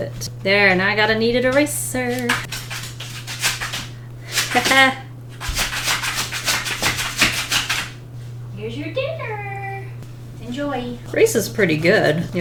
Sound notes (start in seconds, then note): 1.3 dog scuffling; 4.2 dog scuffling louder